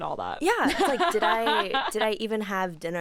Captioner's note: laughs